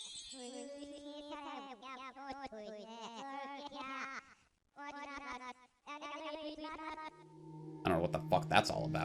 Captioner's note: alien speech